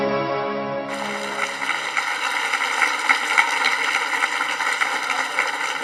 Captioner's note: audience applauding